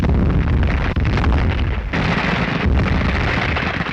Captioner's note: continuous gunfire